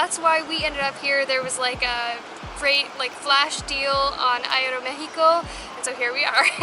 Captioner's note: giggles